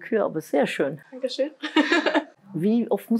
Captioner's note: laughter